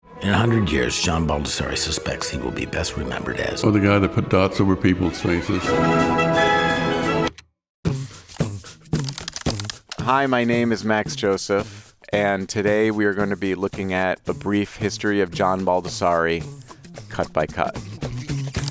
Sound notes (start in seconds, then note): 6.5 triumphant music; 8.1 upbeat music; 9.0 keys clacking